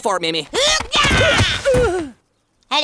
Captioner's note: groaning; grunting